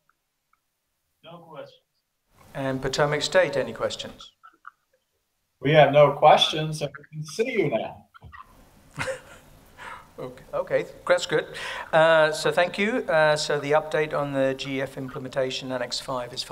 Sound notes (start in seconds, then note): 8.9 laughter